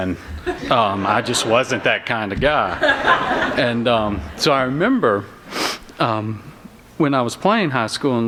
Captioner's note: laughter